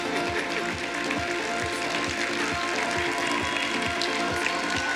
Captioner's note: applause